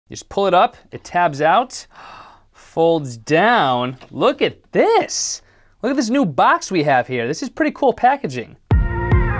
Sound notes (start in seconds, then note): 1.9 gasp; 8.7 intro Music Plays